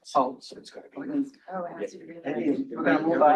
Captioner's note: quiet chatter